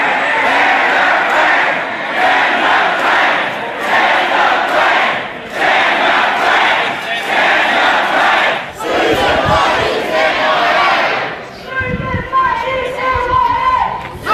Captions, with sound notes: - [Crowd] Can the plan! Can the plan! Can the plan! Can the plan! Can the plan! (crowd yelling and chanting)